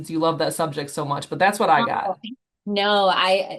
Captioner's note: speaks faintly